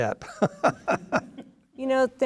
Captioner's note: laughs